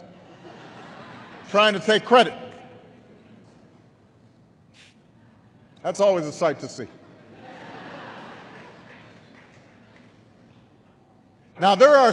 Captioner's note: laughter